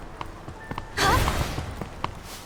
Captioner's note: grunt